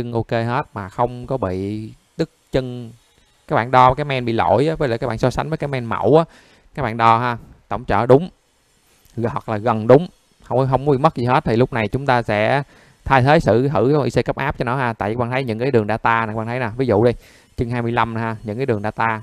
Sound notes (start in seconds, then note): 14.0 electricity